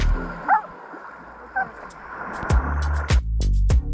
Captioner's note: dog barking; upbeat music